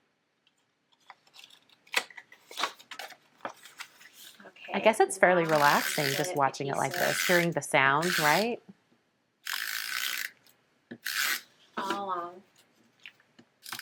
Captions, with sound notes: I guess it's fairly relaxing just watching it like this, hearing the sound, right? (tape runner winding) All along